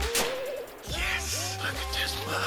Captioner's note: gun fires; guns fires